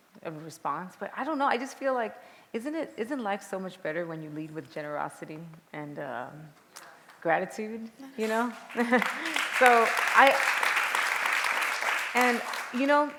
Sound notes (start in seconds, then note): 8.2 applause